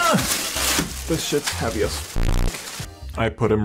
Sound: grunts; bass boosted sound effect

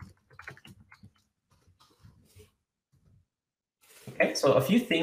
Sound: keyboard clicks

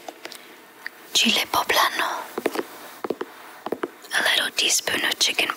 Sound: pepper thumping

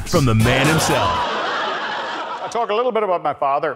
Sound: audience laughter

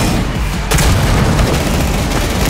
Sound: gunfire; grenade launcher firing; boom

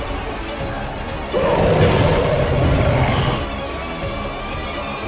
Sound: bull grunts

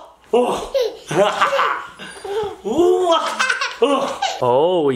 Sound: child laughing

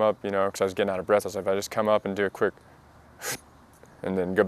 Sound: sucks in air

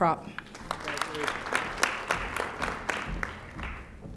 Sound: audience applauding

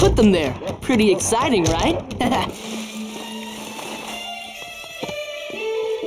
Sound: laughs

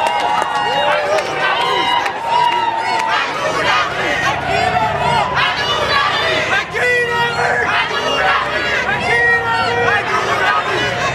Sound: protestors chanting slogan

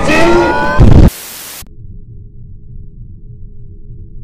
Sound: explosion

